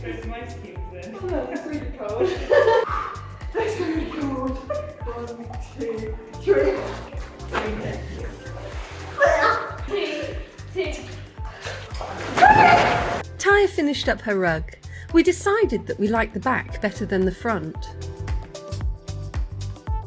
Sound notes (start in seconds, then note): 2.0 laughing; 3.0 deep breathing